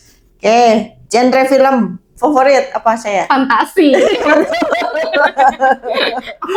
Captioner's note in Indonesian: tertawa